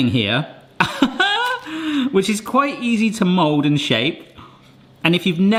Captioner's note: laughs